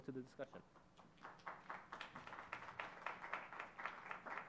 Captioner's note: audience applauds